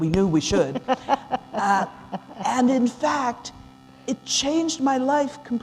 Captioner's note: laughter